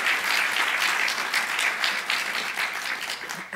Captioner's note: applause